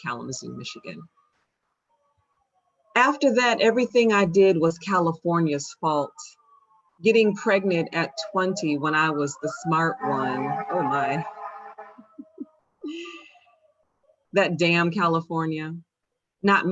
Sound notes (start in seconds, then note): 10.8 fire truck siren sounds; 11.9 shonda laughs